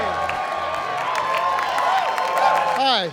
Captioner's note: cheering and applause